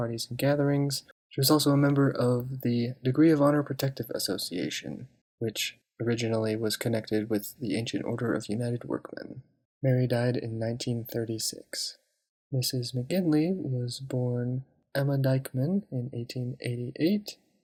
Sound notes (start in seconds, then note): none